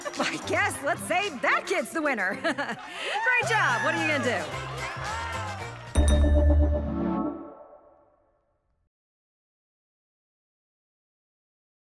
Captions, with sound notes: Let's say, that kid's the winner. Great job. What are you gonna do? [cheers and applause]